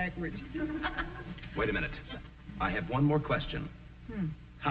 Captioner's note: laughs